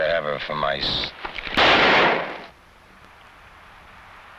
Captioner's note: gun blasting